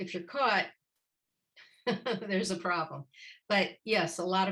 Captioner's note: laughter